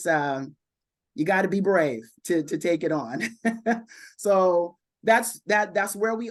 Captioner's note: chuckles